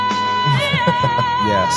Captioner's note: chuckles